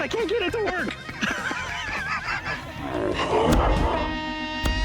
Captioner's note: laughter